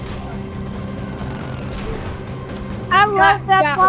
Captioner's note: engine rumbles